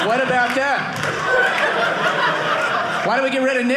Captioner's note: audience laughing